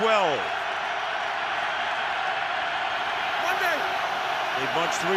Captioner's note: crowd cheering